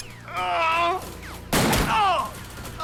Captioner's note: Lamont groans; gun fires; Lamont cries out